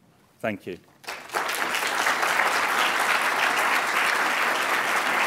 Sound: applause

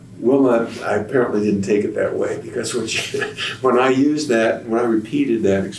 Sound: laughs

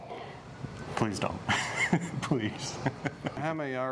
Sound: laughs

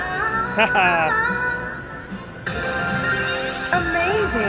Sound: laughing

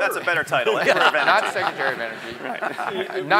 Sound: laugh

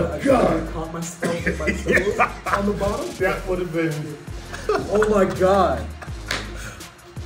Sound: laugh

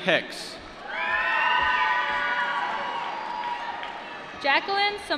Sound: applause

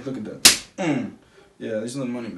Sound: slaps thigh

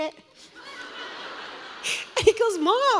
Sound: congregation laughs

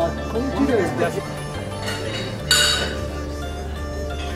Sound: dishes stacking

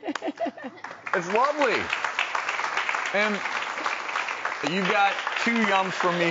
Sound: laughs; crowd applauds

